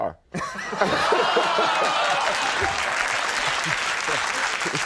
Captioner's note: crowd laughing